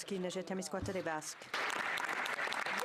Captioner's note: cheering/Applause